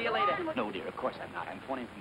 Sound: without french accent

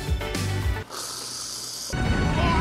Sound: whipped cream spurting

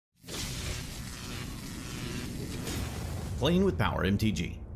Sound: electric voltage crackling

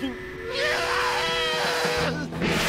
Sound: screaming, whistle blowing

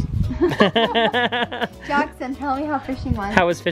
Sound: laughs

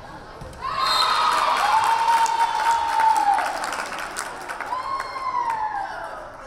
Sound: crowd cheering; whistle blaring

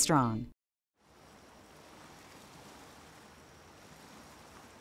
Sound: lapping waves

